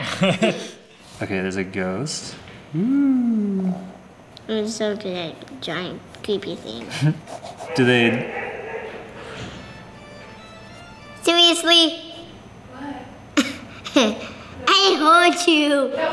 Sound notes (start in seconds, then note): 0.0 laughs; 7.8 creepy laughing; 9.3 scary organ music; 13.4 laughs